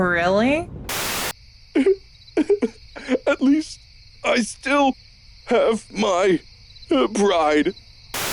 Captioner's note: sobbing